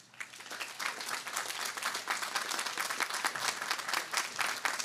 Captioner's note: audience applauding